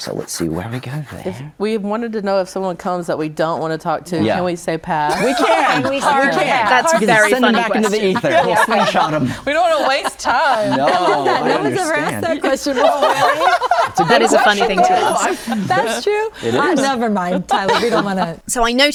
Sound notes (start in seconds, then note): 4.9 guests laugh; 12.9 everyone laughs